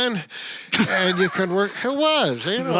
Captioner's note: laughing